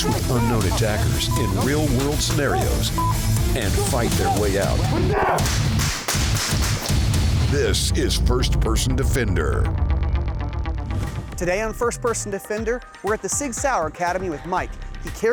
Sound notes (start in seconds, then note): 5.2 gunshots